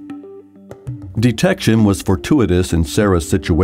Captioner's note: voiceover